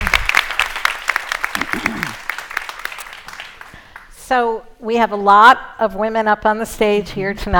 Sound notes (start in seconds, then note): 0.0 applause